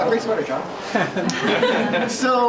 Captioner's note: laughing